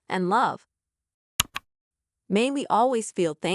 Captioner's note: click